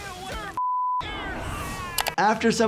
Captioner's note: beep